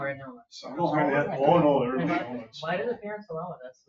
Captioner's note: people chatter